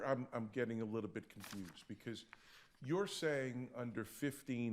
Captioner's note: paper shuffling